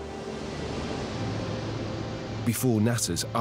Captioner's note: spacecraft whooshing